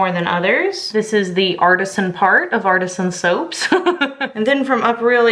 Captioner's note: laughing